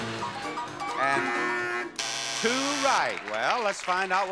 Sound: buzzer rings

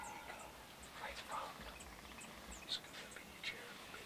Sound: whispers

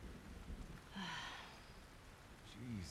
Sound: sigh

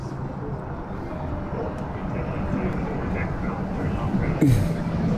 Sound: vehicles whirring

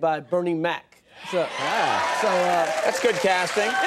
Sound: audience cheers and applauds

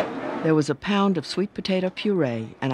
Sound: voiceover

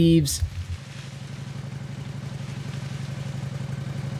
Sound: car motor running

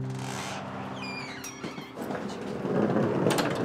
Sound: door opening; wheels rolling

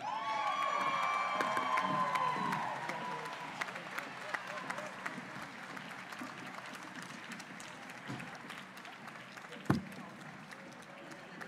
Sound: applause and cheers

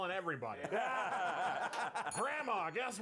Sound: laughter

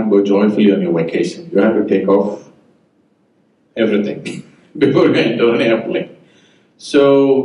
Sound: laughs

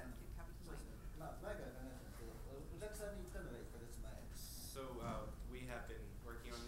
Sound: speaking in foreign language

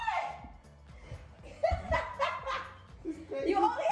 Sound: laughs

